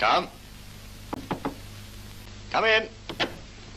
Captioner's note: knocks; knocks again